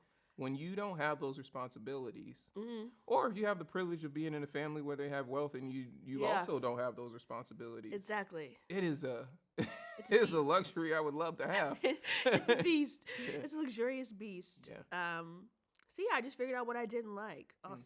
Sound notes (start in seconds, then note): 8.7 laughs